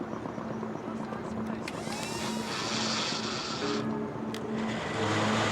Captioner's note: suspenseful music; motor whines; motor revs